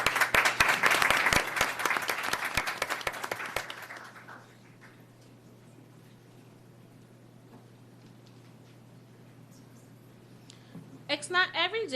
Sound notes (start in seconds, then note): 1.6 applause